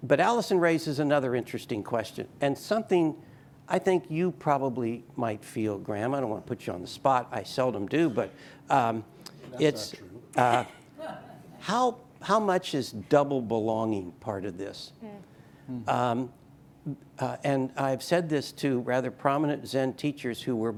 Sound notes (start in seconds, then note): 11.2 audience laughing